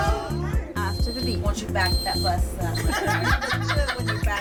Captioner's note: laughter